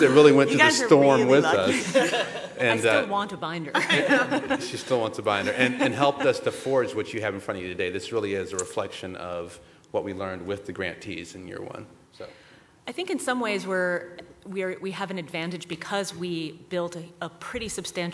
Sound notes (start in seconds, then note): 1.6 laughter; 3.7 laughter; 6.8 laughter